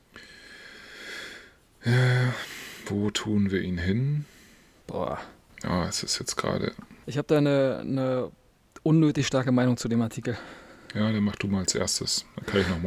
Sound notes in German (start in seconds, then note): 0.1 japst; 1.8 seufzt